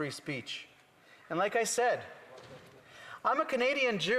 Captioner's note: none